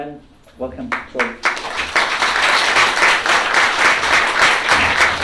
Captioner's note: applause